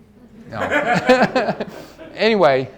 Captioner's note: all laugh